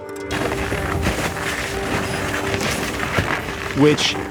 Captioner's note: snow crunching